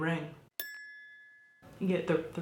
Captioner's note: bell chimes